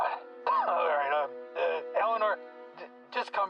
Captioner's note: coughs